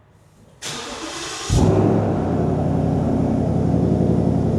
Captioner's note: car starts